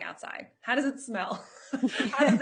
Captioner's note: chuckling; laughs